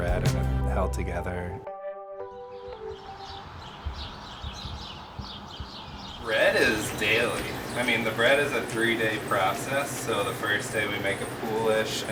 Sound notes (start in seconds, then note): 2.3 birds chirping